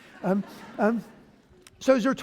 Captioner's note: laughter